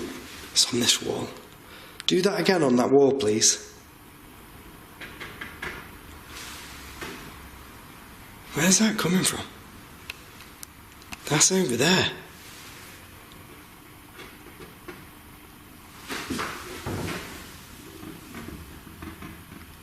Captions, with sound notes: It's in this wall. Do that again on that wall, please. (tapping) where is that coming from? That's over there.